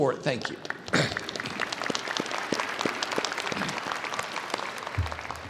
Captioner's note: audience applauding